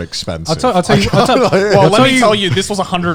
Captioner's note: laughing